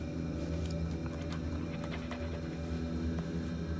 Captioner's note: dogs panting